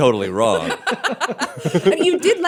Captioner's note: laughter